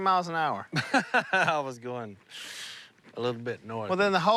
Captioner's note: laughs